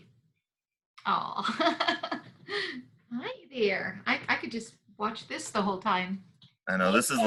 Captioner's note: chuckles